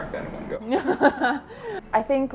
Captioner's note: laughs